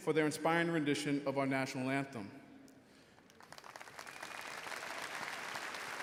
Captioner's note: audience applauding